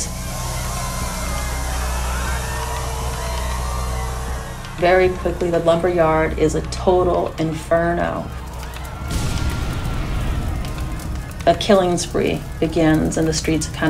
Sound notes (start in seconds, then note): 0.0 soundbite of water spraying; 1.3 yelling; 8.9 soundbite of explosion